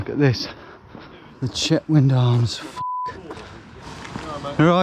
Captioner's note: beep